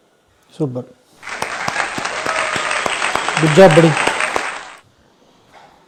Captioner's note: claps